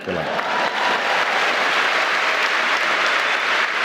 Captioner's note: applause